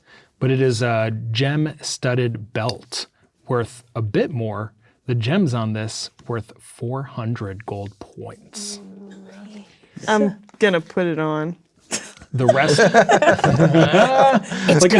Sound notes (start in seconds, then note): 11.9 laughing; 12.0 players laughing